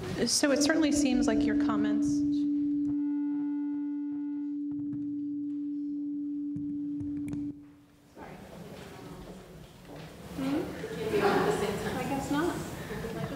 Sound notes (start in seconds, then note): 2.0 microphone humming